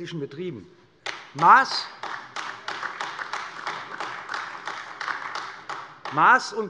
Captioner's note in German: Beifall AfD